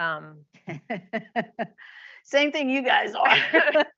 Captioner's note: laughs